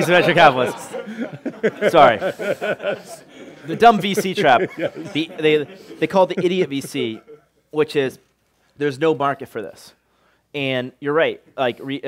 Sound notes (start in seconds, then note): 0.0 laughter